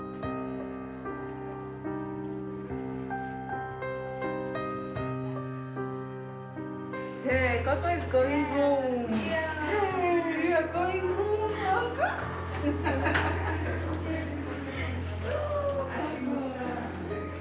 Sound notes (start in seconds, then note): 12.4 chuckles; 14.9 indistinct chatter